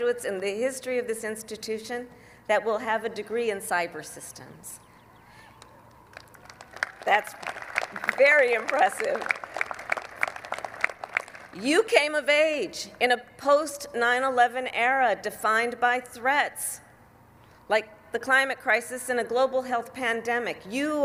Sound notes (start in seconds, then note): 6.0 applause